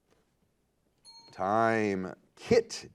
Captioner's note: timer beeping